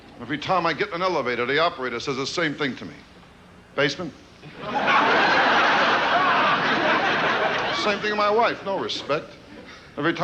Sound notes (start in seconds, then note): 4.4 audience laughing